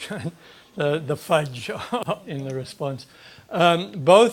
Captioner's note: laughs